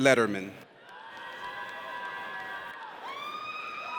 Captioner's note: audience cheers